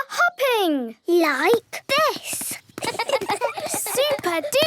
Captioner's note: laughs